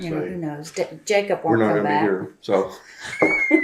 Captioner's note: laughter